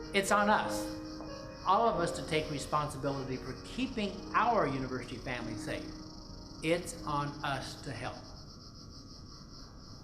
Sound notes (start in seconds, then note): none